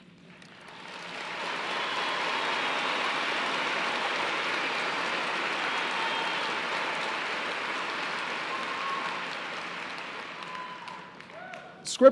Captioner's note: applause